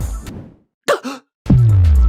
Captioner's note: gasp